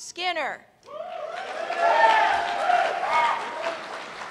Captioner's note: cheers and applause